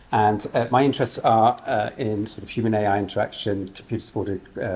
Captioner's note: none